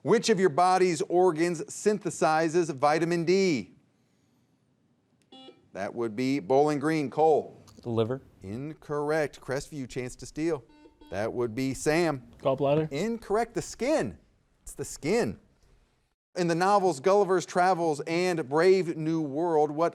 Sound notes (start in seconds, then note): 5.3 buzzer beeps; 10.5 buzzer beeps